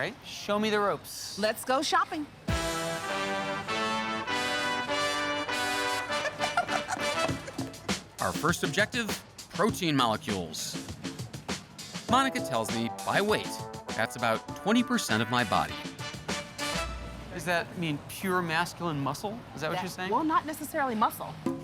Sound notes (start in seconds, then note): 5.7 laughing